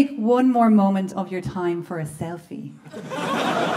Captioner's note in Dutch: gelach